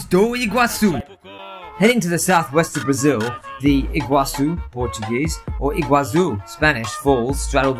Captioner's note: Spanish